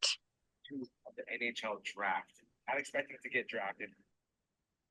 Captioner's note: background chatter